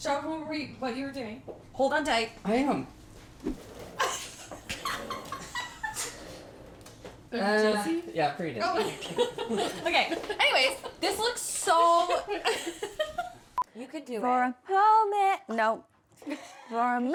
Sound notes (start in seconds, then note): 4.0 laughing; 8.8 both laughing; 11.8 laughing